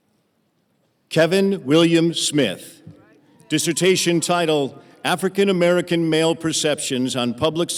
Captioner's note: cheering